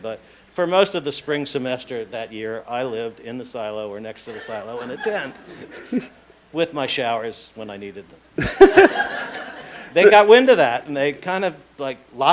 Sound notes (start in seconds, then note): 8.3 laughing